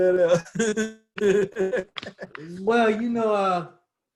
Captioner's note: laughs